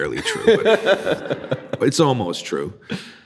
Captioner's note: laughing